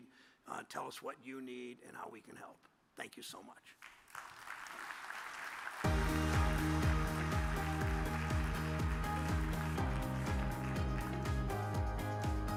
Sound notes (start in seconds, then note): 5.5 audience applause; 5.8 uplifting music